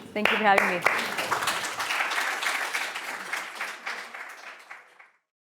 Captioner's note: audience applauding